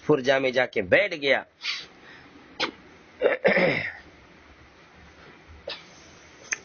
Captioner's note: clears his throat